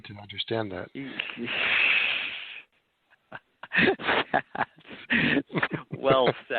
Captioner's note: chuckling